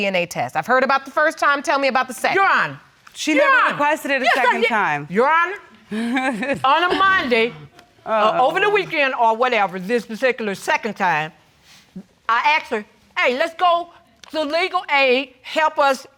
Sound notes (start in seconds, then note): 5.9 laughs